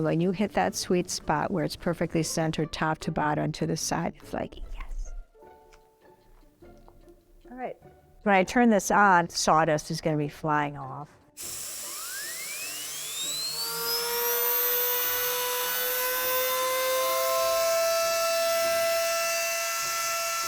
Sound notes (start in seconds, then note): 5.0 whispering; 11.1 whirring; 14.0 high-pitched saw blade